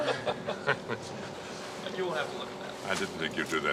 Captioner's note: laughing